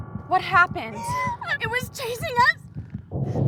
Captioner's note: sobbing